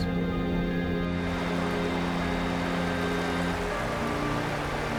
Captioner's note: waves crashing